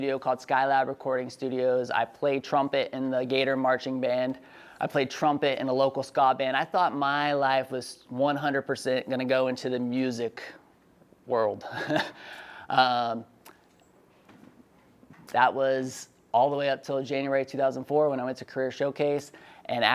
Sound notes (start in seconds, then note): 11.7 laughs